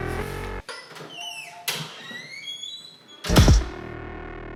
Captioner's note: door squeaking